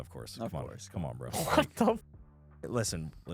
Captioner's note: laughs